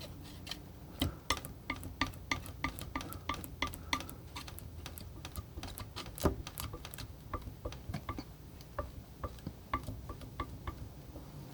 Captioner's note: tapping